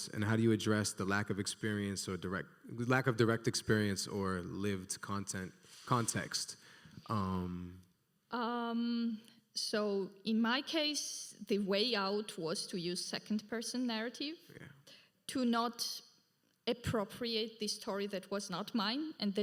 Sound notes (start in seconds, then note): none